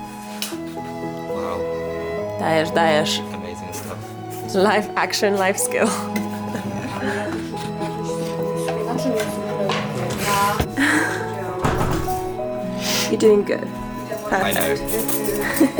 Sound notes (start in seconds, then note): 2.4 speaking in Polish